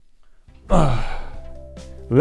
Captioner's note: old man noises after 30s